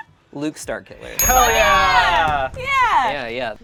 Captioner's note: group cheers